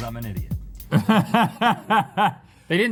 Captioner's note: laughing